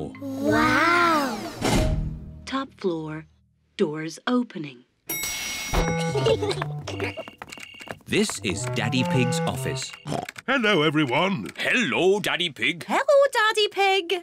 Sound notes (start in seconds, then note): 5.1 elevator bell dings; 6.0 kids giggling